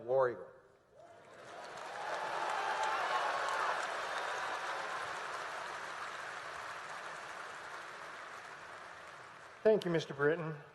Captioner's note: applause